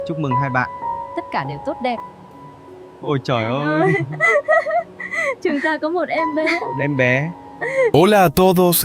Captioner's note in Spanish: risas